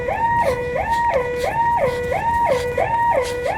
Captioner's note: panting